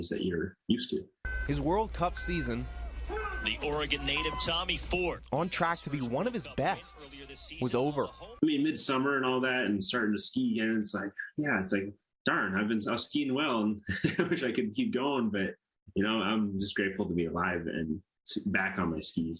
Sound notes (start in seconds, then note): 3.1 start gate beeping